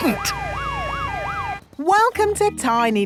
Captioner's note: sirens wailing